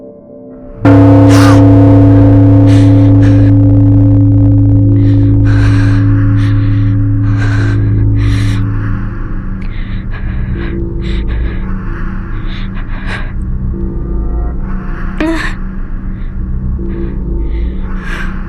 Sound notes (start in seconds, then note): 1.1 bell rings; 5.9 frightened breathing